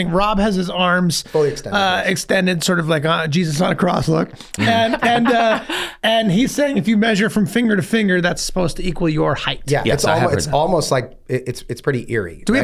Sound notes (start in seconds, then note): 4.5 laughs